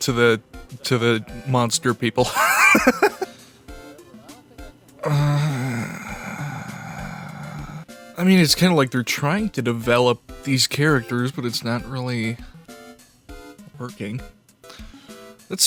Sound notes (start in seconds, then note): 2.3 wheezing laughter; 5.0 groans